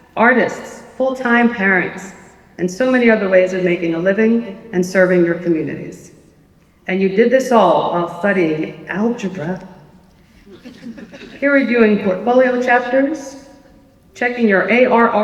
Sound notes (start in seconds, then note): 10.4 laughter